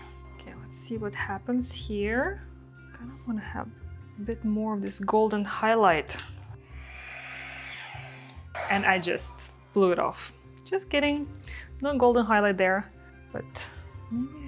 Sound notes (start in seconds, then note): 6.7 hair dryer whirring